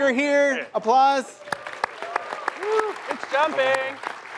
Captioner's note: applause